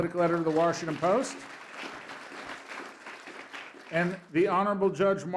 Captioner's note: applause